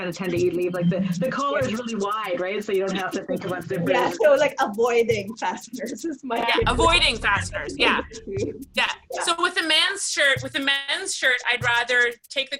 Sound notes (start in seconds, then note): 6.4 laughs